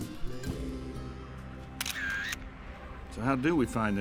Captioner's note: upbeat country music playing; camera shutter